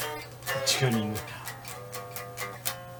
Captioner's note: laughs